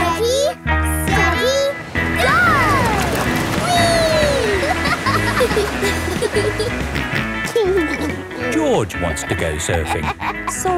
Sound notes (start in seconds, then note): 3.5 laughing; 7.2 snorts and giggles